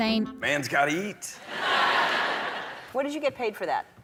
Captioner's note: laughter